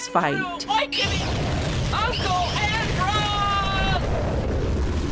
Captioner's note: explosion sounds